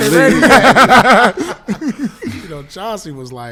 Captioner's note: laughing